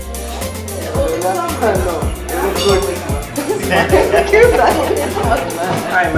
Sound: cheerful Banter

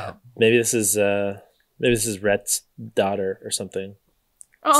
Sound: none

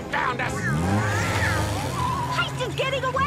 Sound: Lazlo meows

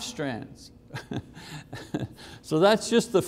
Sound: chuckling

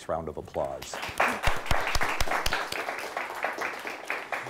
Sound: audience clapping

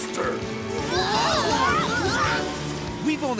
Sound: screaming

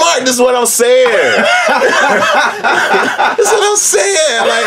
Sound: laugh

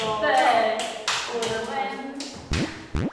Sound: slap

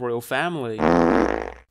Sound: fart noise

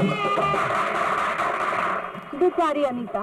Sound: applauding

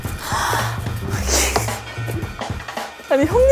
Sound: laughing

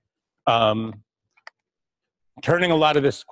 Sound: pause

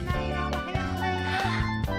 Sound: gasps

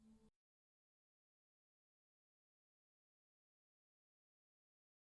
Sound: silence

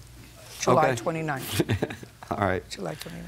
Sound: chuckles

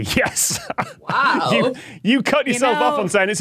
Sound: laughs

